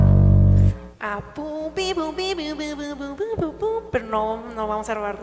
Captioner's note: hums